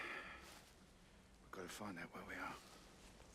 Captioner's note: sighs